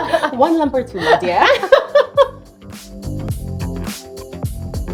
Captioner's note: laughing